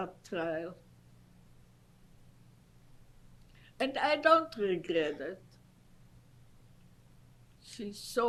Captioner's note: pauses for 3 seconds